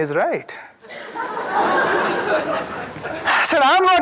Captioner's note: audience laughing